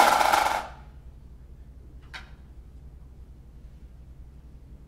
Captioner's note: sudden silence